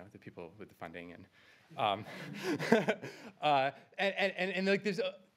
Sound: laughter

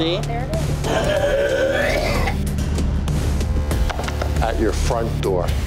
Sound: customer dry heaving

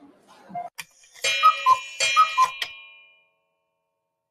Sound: cuckoo clock

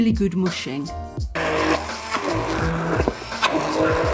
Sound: blender noise

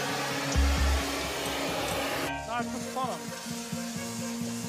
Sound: blow torch buzzing; foreboding music

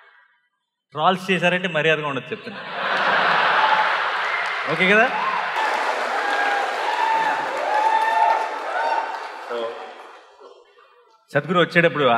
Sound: cheers/Applause

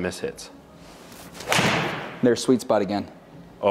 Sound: ball thuds

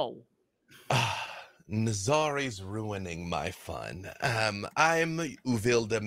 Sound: exhales

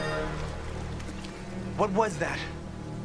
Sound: water running

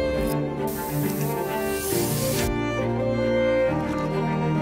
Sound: camera clicking; hair spray fizzing; contemplative music

